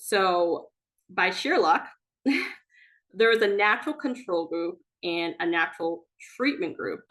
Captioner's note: chuckles